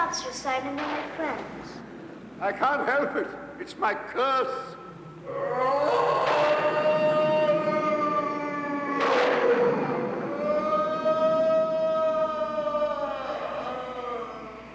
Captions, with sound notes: - Stop, Sir Simon, they're my friends. - I can't help it. It's my curse. (moaning)